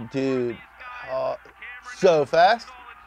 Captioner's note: male commentator voiceover